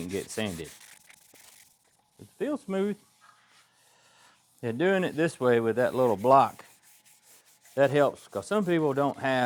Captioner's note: scraping